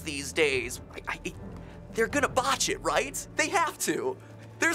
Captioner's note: stammers